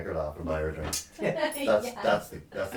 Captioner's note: laughing